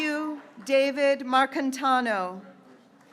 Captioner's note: graduates cheering